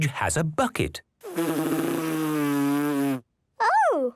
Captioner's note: blows